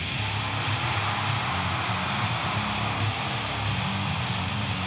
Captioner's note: audience cheering; hard rock music